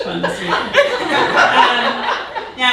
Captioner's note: audience laughing